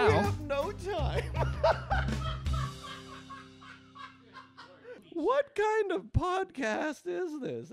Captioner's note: continues laughing in distance